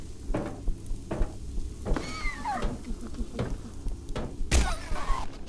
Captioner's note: gun firing